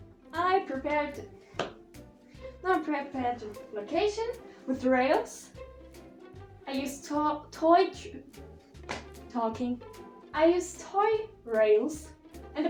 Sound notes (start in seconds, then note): 1.5 clap* of brain short circuit; 8.8 another *clap